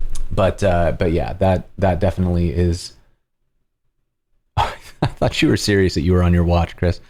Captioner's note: laughter